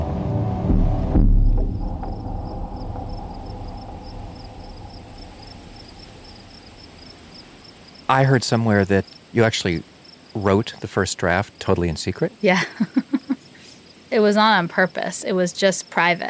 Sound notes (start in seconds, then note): 2.2 birds chirp; 2.2 bugs chitter; 12.4 laughs